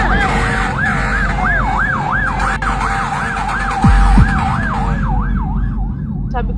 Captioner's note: firetruck siren continuously wailing